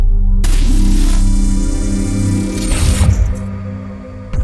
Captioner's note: laser Sound Effects, Music, and an ending Sound Effect